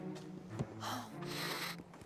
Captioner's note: sniffs